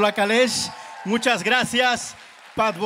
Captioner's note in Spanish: aplausos